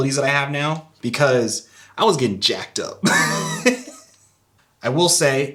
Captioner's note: laughs